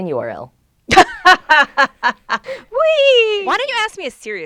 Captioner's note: laughs